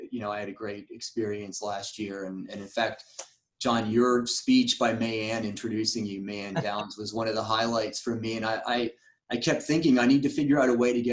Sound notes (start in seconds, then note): 6.1 laughs